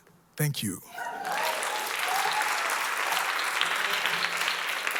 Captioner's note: applause